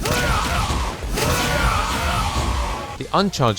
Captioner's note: satisfying Flash Knuckle sounds